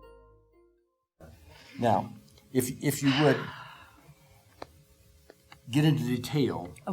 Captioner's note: exhaling